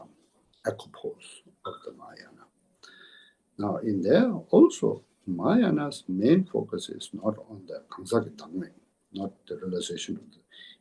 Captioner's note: tibetan